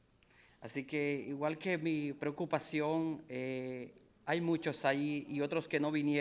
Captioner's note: speaking in foreign language